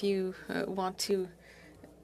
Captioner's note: speaking French